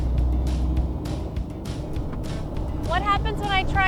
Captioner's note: engine revving